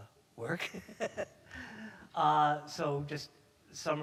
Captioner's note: chuckles